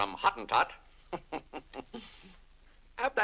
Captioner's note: chuckles